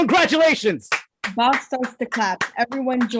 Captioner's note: gang clapping